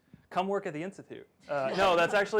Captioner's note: laughter